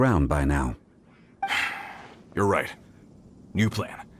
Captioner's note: sigh